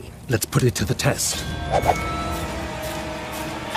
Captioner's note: ominous music; swords whooshing